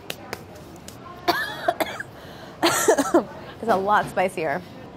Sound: coughing

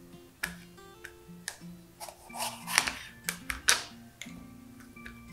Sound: knife slicing

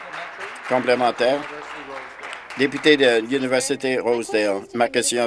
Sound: applause

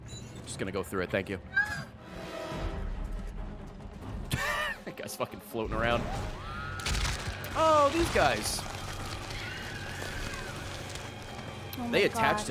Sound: laughs

